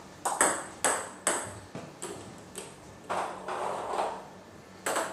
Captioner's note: balls ping pong hitting continues